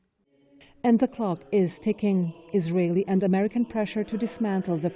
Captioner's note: voice-over